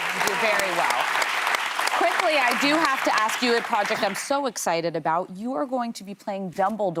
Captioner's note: applause